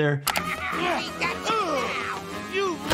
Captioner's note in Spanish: risas